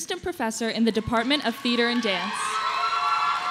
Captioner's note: applause